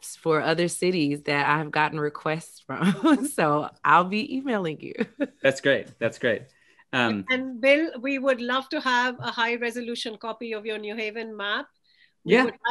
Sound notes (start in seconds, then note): 2.8 chuckles